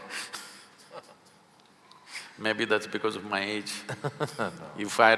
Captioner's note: both laugh; Karan Johar laughs